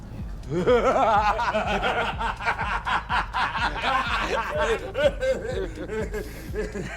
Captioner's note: laughing